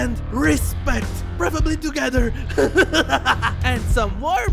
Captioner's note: laughs